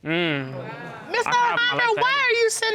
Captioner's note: audience exclaims